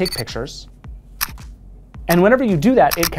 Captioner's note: camera snapping